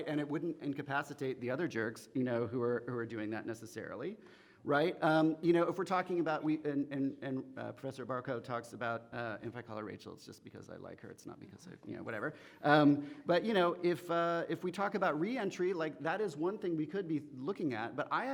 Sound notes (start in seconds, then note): none